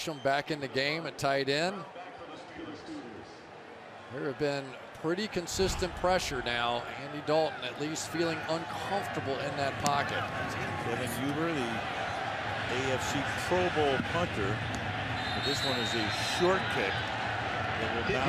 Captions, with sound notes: Jermaine Gresham back in the game at tight end. There have been pretty consistent pressure now, Andy Dalton at least feeling uncomfortable in that pocket. Kevin Huber, the AFC Pro Bowl punter. [whistles] And this one is a short kick.